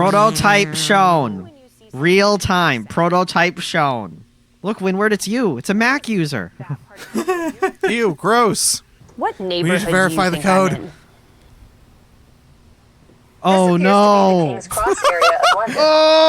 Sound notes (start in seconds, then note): 7.0 laughs; 14.7 laughs